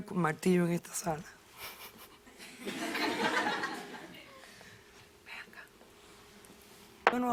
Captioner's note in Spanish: Risas